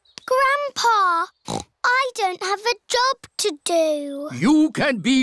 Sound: snorts

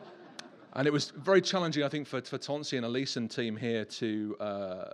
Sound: laughter

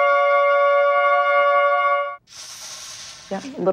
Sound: blows

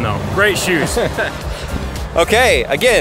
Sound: chuckles

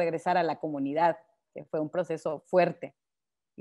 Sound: speaking Spanish

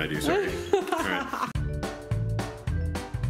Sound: laughs; whimsical music

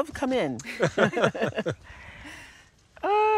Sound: laughter

